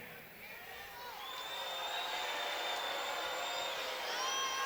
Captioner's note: audience cheers